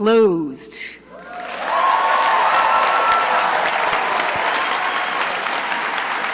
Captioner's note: crowd cheering and applauding